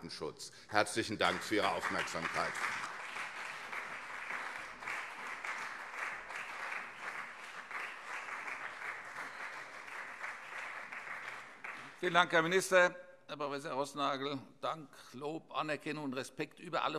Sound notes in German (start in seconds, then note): 0.7 Beifall CDU und SPD